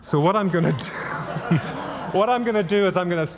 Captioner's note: audience laughing